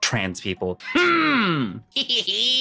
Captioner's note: grunts